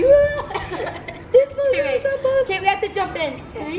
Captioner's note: both laughs